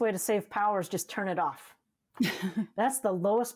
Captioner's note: laughs